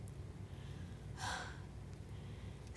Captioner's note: sighs